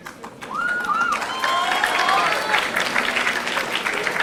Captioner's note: audience applauding